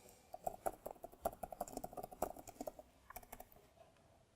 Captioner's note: keyboard clicking